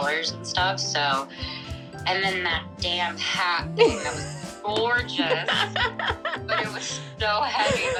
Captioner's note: laughter